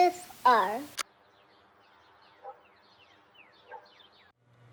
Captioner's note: tape clicks